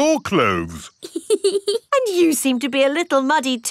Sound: laughs

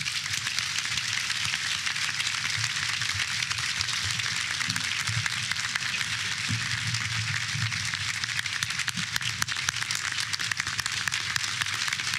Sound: applause

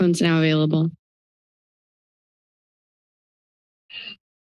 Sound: silence

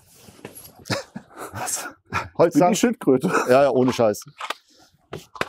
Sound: giggle

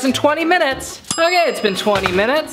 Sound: timer dings

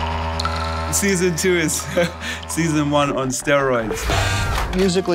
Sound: chuckles

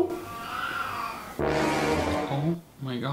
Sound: cat meows

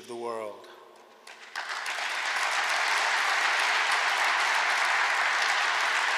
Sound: applause

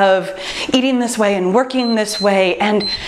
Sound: timer beeps

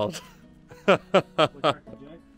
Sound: laughter

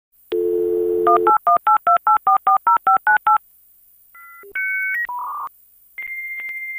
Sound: dial Tone and modem sounds

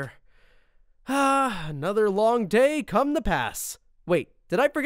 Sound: sighs

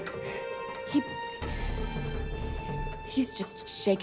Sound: sigh

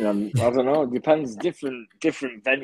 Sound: group laughing

